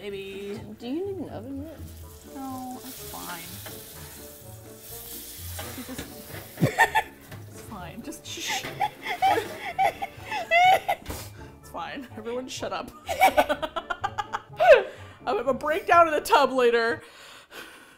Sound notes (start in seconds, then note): 3.8 sizzles; 4.3 laughs; 4.3 sizzles; 8.7 laughs breathlessly; 13.2 both laugh